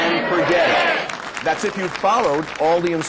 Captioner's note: crowd applauding